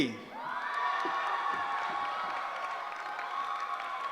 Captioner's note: cheering